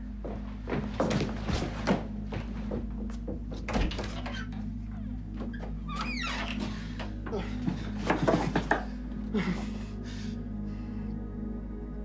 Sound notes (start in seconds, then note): 0.2 dramatic orchestral music; 3.3 door opening; 6.6 heavy breathing